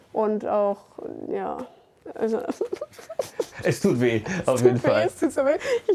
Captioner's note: sobbing